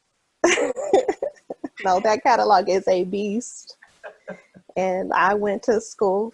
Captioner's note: laughs